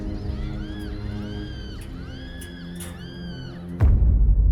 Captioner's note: distant screaming